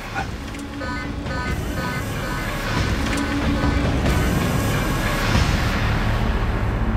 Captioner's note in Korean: 경보음